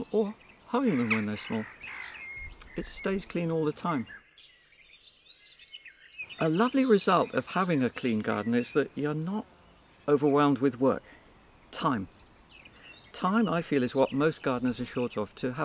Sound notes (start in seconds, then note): 4.5 brids chirping